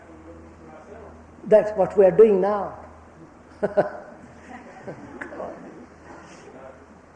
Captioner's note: laughs